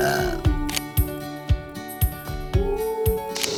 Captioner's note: belching